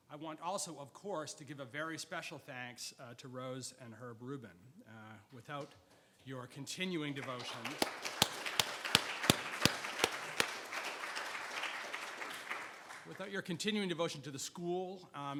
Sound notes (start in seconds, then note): 7.2 audience applauds